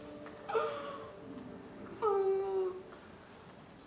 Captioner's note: sobbing